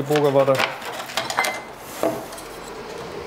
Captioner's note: rattling